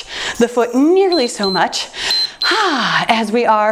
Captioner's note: timer beeps